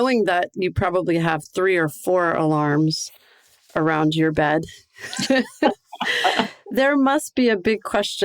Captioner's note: laughter